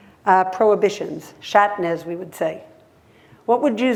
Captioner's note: hebrew